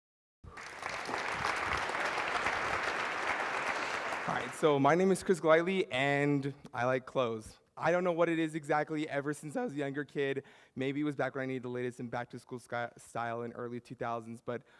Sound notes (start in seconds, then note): 0.4 applause